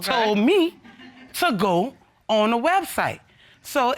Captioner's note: audience chuckling